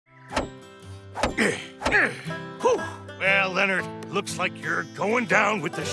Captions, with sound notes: [grunting] Well, Leonard, looks like you're going down with the ship.